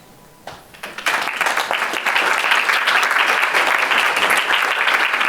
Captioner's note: applause